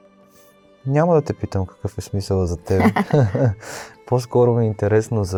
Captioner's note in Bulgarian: смях